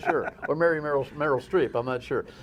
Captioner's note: laughter